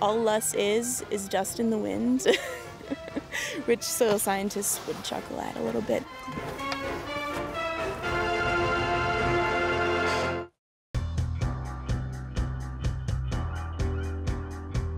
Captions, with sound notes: All loess is, is dust in the wind. (laughing) Which soil scientists would chuckle at. (upbeat music)